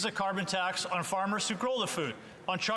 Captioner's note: speaking French